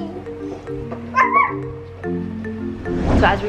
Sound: imitates barking

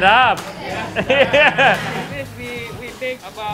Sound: speaks in foreign language; laughs

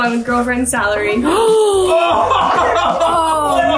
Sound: gasps; everybody laughs

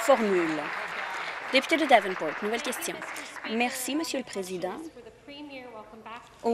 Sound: applause

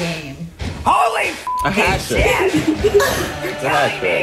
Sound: beep

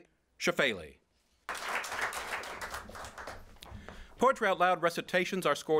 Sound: applause

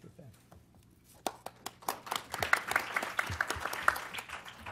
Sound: applause

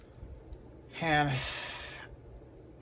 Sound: Ava sighs

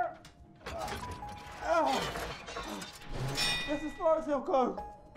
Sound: grunting

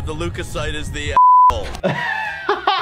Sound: beep

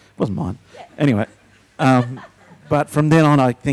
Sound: laughs

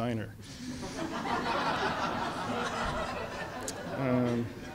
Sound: audience laughs

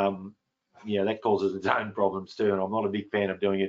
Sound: laughs

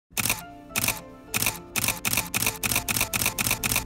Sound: camera shutter clicking

